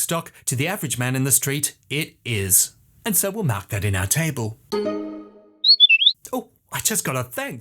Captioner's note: whistle